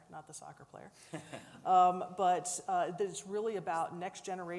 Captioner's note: laughs